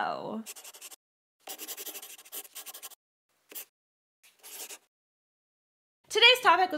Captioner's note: the sound of a pen scratching. LOGO